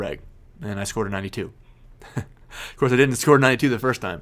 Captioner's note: laughs